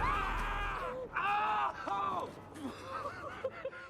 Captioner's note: man screams; woman squeals